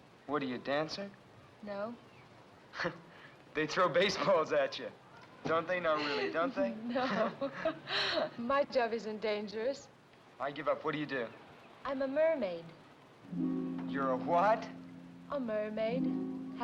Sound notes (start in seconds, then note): 2.7 chuckles; 5.9 laughs; 13.2 sentimental music